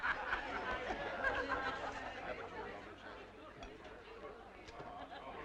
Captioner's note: crowd laughing; crowd chattering